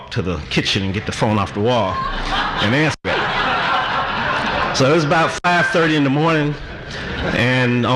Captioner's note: audience laughter